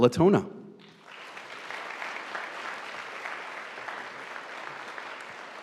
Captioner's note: audience applauding